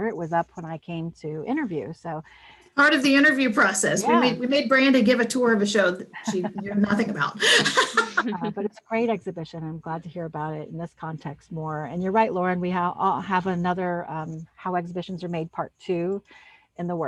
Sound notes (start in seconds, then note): 6.2 laughs